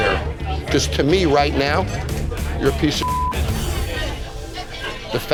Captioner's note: beep